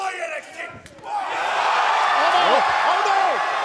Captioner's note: cheers and applause